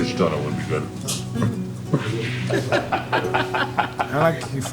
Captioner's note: laughing